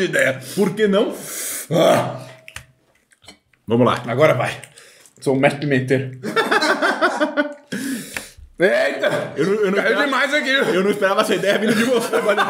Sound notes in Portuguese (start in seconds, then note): 6.2 risos